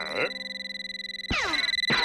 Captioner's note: telephone rings